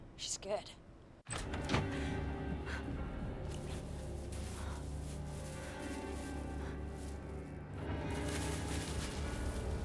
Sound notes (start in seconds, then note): 1.2 door opens; 1.5 dark brooding music; 3.5 bag rustling